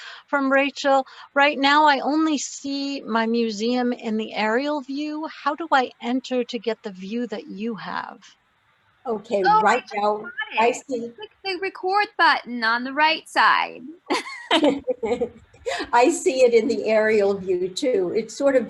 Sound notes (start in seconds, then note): 14.1 laughter